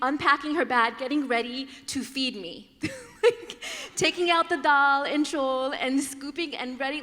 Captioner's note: laughter